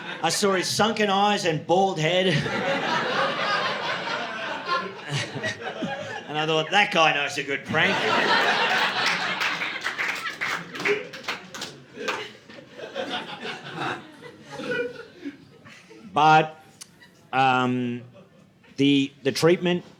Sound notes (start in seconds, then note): 3.2 audience laughing; 8.2 audience laughing